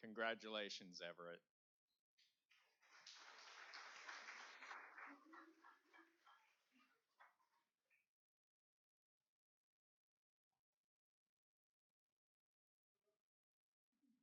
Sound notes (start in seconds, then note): 7.6 applauding